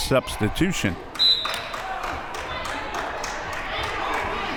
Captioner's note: whistle